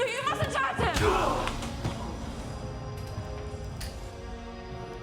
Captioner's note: blow striking